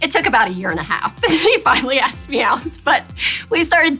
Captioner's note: laughs